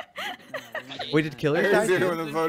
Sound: laughing

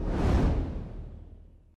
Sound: air whooshing

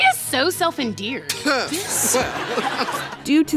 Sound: laughter

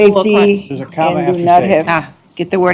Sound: indistinct chatter

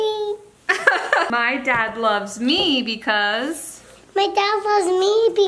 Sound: laughing

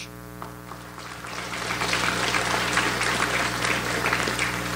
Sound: audience applauds

